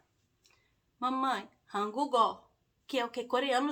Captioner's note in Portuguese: coreano